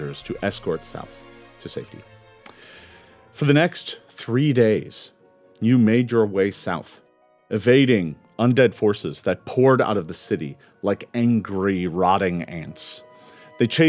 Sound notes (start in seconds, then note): none